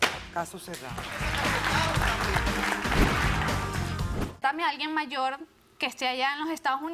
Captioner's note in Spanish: Aplausos